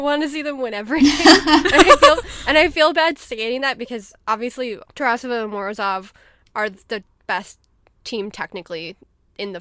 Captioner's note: hosts laugh